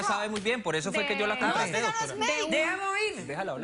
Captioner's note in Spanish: Hablan al unísono